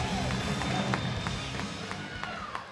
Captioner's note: crowd cheering